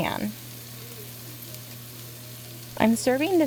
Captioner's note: sizzle noises